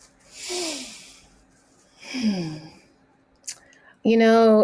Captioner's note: breathing deeply